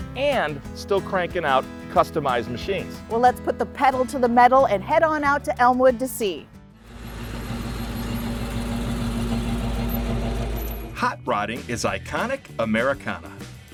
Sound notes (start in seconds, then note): 6.7 engine rumbling